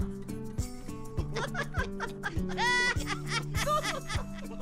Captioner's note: cartoon laughing